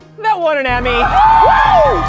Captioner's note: cheering